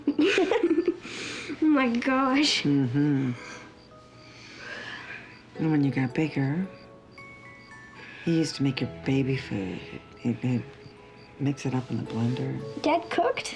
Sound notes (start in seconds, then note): 0.0 giggles; 3.3 yawns